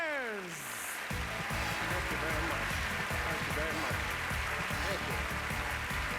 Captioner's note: applause